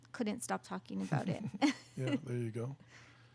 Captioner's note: laughing